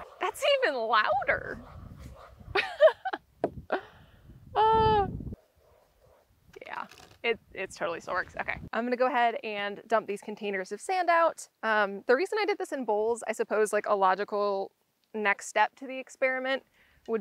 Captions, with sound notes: That's even louder! [laughter] Yeah... it totally still works. Okay. I'm gonna go ahead and dump these containers of sand out. The reason I did this in bowl — I suppose, like, a logical next step to the experiment